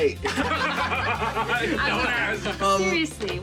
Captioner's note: laughter